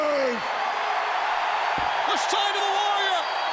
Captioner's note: audience cheering